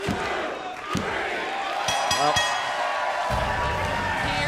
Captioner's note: bell ringing